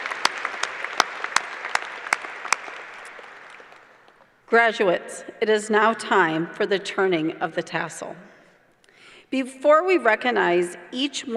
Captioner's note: applause